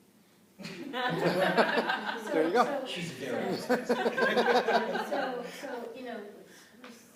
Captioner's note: laughter